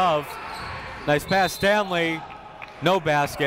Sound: whistle blows

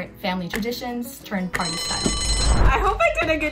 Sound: bell rings

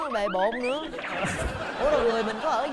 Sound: laughing

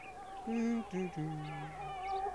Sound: humming

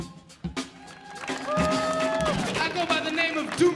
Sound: audience applauding

